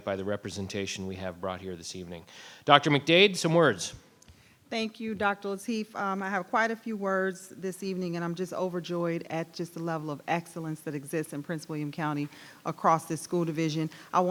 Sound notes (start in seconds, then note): none